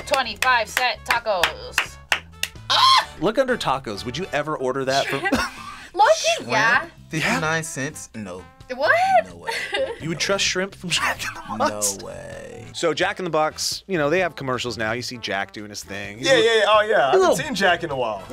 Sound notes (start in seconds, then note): 0.0 claps; 2.6 screams; 5.0 laughs